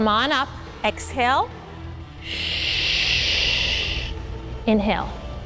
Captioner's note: exhales sharply